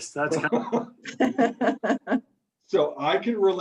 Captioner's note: laughs